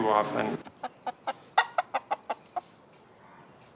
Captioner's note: chicken clucking